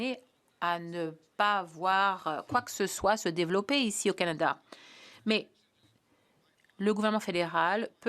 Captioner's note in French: voix de l'interprète